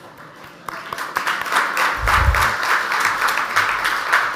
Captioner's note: audience applauds